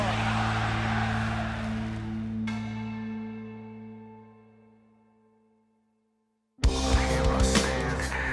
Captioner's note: crowd cheering